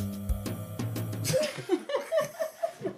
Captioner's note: laugh